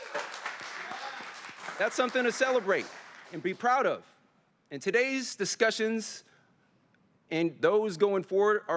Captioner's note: applause